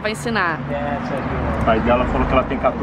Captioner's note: english conversation